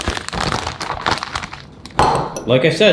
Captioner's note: crackling